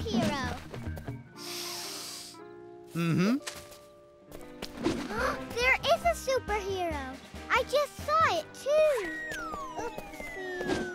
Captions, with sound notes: [deep sniff] Mmm hmm... [gasp] There IS a superhero. I just saw it too! Oopsy!